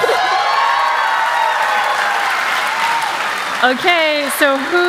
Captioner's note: cheers and applause